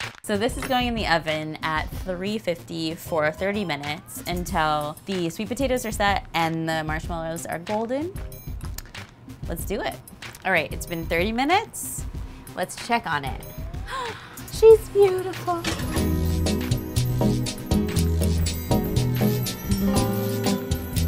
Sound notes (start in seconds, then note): 13.8 gasps lightly; 17.5 light music